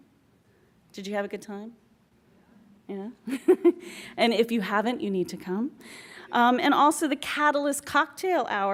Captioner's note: laughs